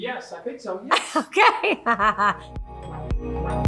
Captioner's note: laughs; upbeat music